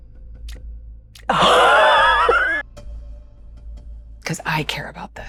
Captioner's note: gasping